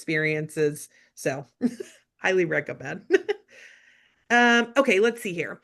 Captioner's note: giggling